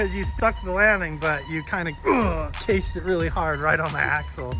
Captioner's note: grunts